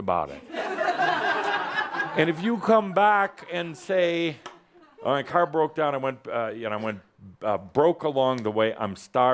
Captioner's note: laughter